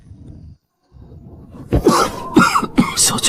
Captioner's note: cough